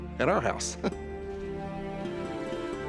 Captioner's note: chuckles